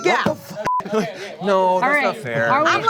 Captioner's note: beep